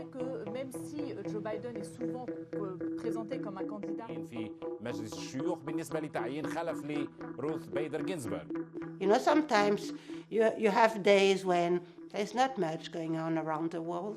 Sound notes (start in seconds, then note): 0.1 woman speaking in foreign language; 4.1 man speaking in foreign language